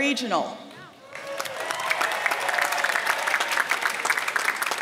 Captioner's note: applause